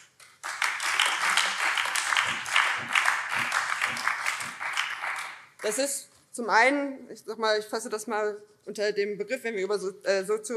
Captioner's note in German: Beifall BÜNDNIS 90/DIE GRÜNEN und Freie Demokraten